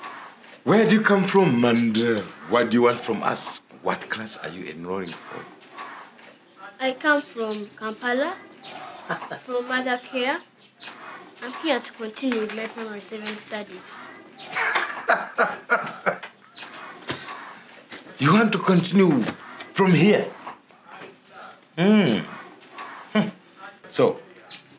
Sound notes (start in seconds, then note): 8.8 chuckles; 14.5 laughter